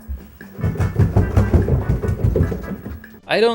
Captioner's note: thumping down the stairs